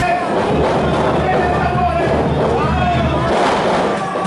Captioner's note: crowd cheering